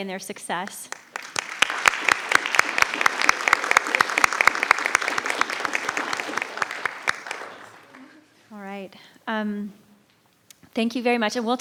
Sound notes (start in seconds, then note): 0.8 everyone applauds